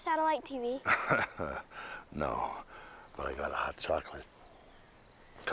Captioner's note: chuckling